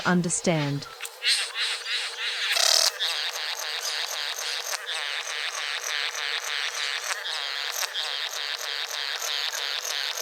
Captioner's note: birds sounds and display calls